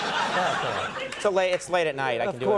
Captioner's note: audience laughs